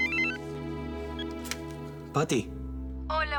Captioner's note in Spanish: Suena el celular